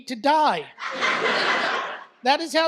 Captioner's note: audience laughs